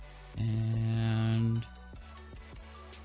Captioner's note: none